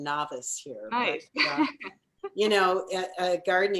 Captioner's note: laughs